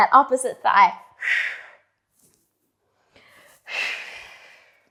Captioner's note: breathing sharply